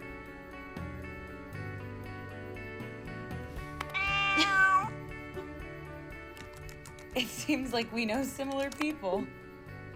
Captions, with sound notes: (meowing) (laughing) It seems like we know similar people.